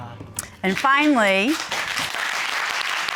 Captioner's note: applause